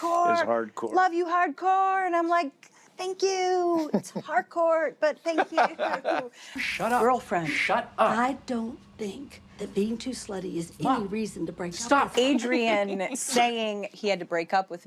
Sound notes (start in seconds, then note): 5.2 laughter